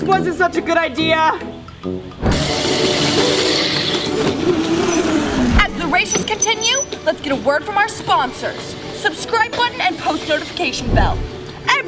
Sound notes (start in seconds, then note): 2.3 scooters whizzing